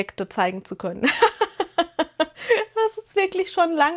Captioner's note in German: gelächter